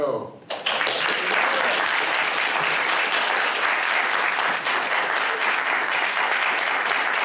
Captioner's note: applause